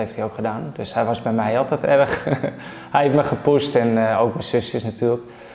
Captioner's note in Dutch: lacht